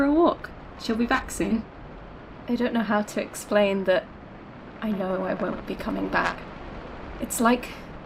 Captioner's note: echoing, staticy